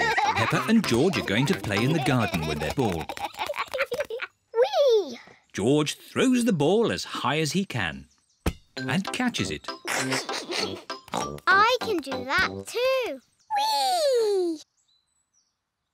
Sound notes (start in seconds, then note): 9.8 laughs; 10.9 snorts